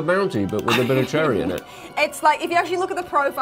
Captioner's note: laughs